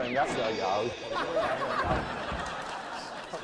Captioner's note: laughing